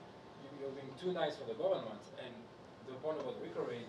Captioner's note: speaking faintly